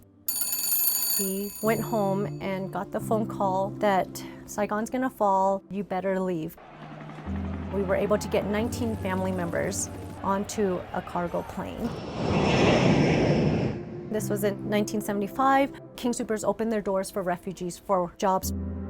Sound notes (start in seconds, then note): 0.2 telephone Rings; 6.7 helicopter, Crowd Walla; 12.3 howl of plane engines at take off